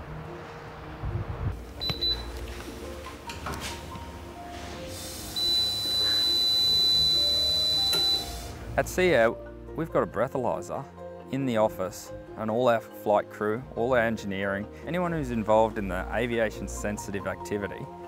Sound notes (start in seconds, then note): 1.8 machine beeps; 5.3 extended beep